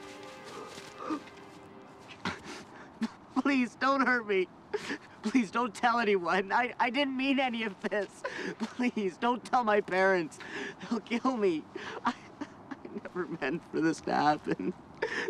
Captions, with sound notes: Please don't hurt me. [CRIES] Please don't tell anyone. I didn't mean any of this. Please don't tell my parents. They'll kill me. I... [CRIES] I never meant for this to happen.